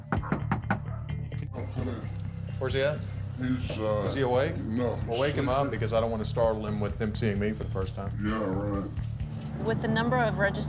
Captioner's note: indistinct chatter